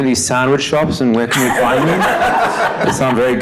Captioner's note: audience laughing